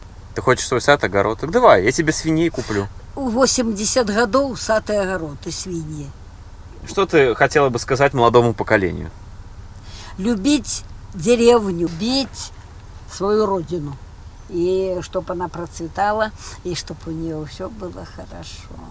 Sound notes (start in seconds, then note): 5.0 sarcasm